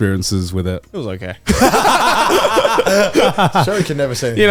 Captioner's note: all laugh